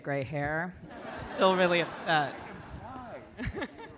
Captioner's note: audience laughing